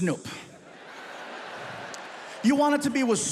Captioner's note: audience laughs